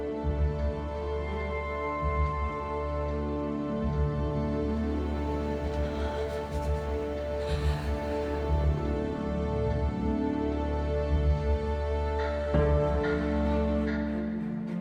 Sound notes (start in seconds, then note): 6.9 shallow breathing; 12.5 clock ticking